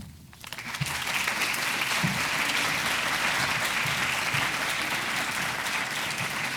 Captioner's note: audience clapping